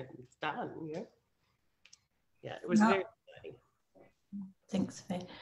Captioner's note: speaking faintly